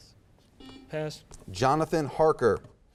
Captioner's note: buzzer beeps